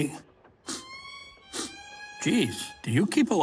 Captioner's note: sniffs air